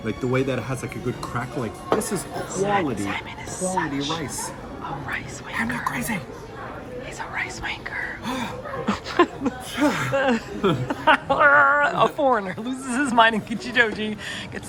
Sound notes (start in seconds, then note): 4.4 whispering; 8.3 laughing